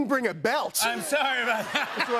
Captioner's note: laughter